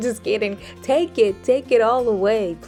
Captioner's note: giggles